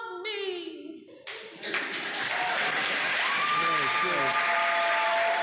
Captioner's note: cheers and applause